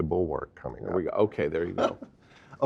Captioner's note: laugh